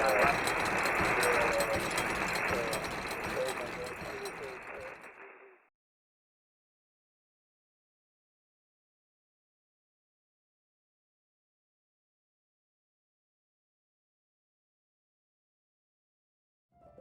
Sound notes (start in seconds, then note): 7.5 silence